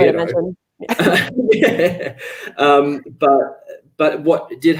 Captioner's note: both laugh